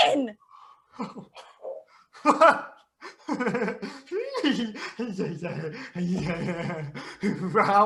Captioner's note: various -y giggles